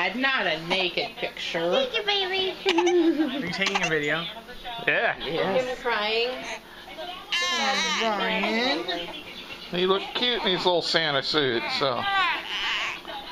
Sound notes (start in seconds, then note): 2.6 laughing; 5.7 crying